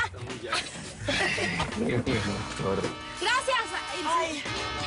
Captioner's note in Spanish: Risas